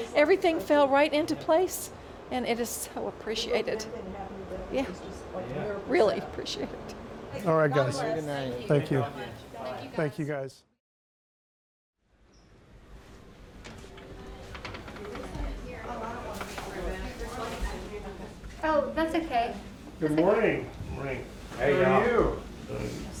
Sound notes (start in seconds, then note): 14.8 family chattering